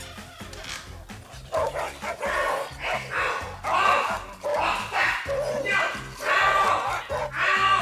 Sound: dogs barking & human screaming

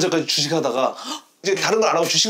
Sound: gasping

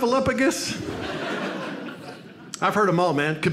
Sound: audience laughs

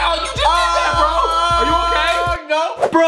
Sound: screaming

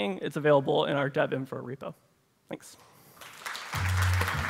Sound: applause

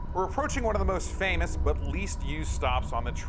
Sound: wind blowing

